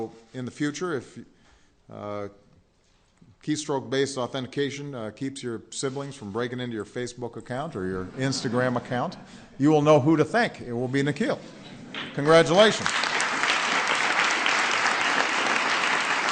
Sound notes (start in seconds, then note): 10.4 laughter; 14.5 applause